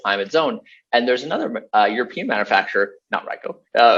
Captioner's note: laughs